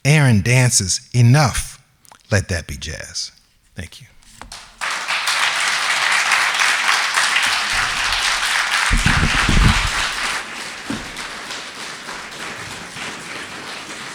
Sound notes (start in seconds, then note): 9.9 audience applauding